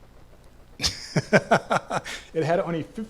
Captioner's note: laughs